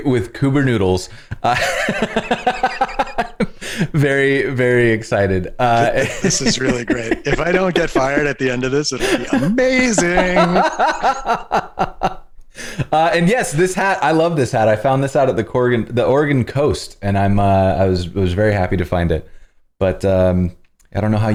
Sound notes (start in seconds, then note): 11.7 laughter